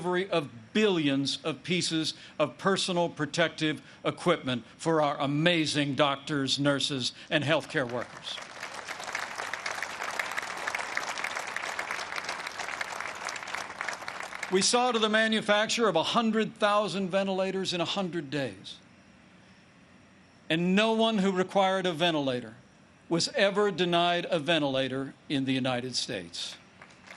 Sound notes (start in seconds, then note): 11.5 applause